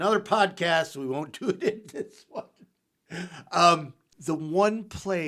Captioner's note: laughs